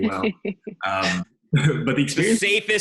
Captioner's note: Lauren laughs